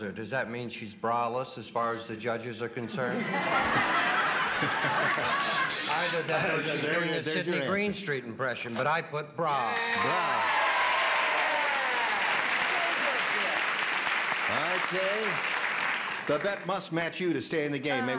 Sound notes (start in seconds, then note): 2.8 laughter; 5.4 buzzer sounds; 9.8 cheers and applause